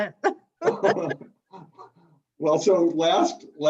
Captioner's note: laughs